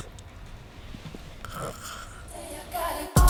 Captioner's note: snoring